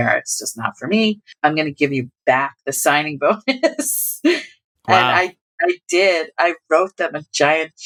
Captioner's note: laughter